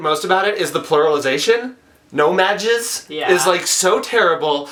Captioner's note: laughs